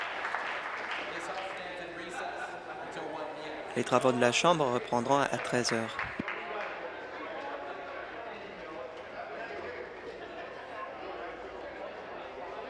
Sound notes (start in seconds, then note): 2.1 applause